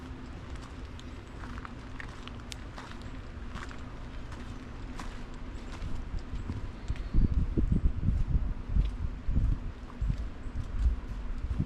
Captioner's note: footsteps on wooden bridge; rain on river; light rainfall on leaves